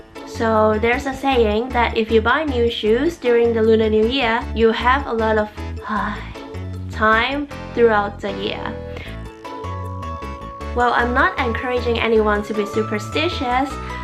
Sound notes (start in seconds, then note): 9.0 sigh